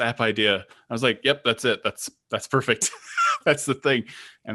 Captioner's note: chuckling